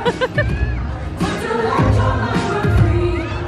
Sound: laughing; upbeat music

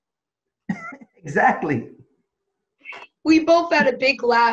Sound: laughs

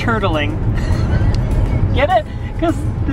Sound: laughs

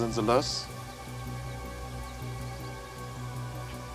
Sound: birds chirping

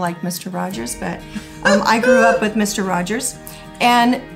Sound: laughing

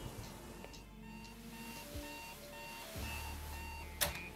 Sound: alarm beeping

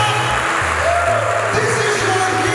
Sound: congregation applauding; congregation cheering

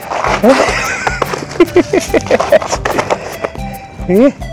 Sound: laughs

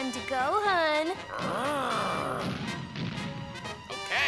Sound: growls

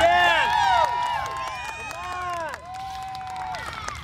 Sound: audience cheering and clapping

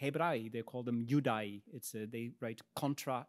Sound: speaks in Latin

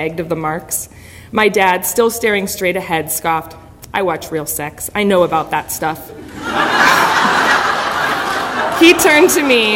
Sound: audience laughter

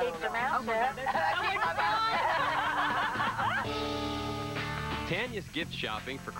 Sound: laughter

